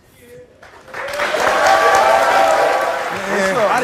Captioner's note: audience applauds